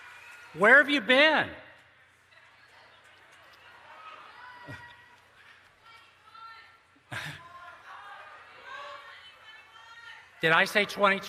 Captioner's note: shouting "21"